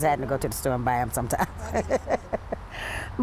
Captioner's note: laughs